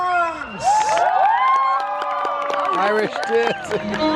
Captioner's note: audience cheers and applauds